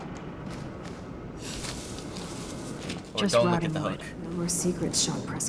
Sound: hay rustling

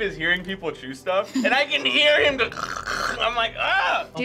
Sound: chewing noises

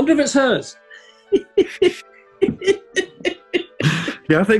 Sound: giggling

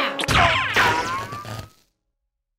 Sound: crash

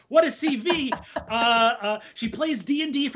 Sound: laughs

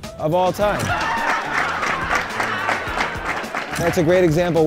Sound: audience cheering

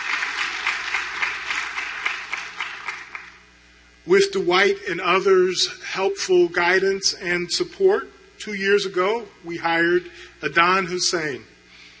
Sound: applause

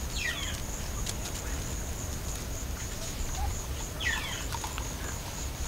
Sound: mongoose noises

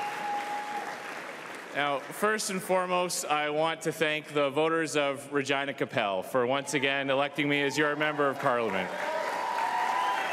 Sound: cheering and Applause

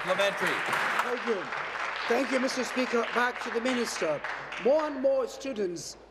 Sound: applause

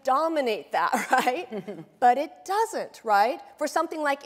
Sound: laughs

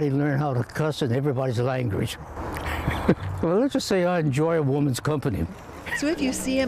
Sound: laughter

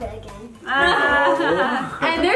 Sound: laughing

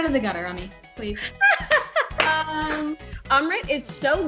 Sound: laughing

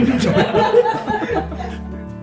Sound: laughter

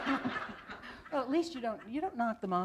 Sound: laughter

